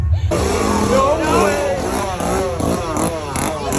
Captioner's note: laughing; people screaming; chainsaw whirring